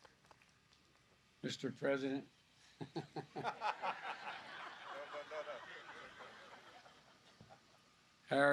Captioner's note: laughter